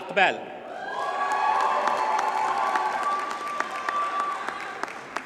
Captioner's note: audience cheers and applauds